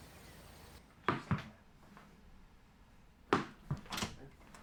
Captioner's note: ball Bounces